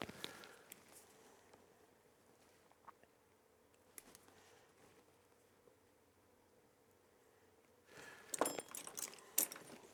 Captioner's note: silence